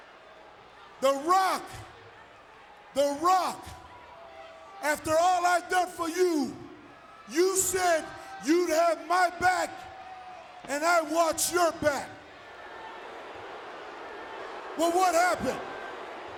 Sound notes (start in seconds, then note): 12.6 audience booing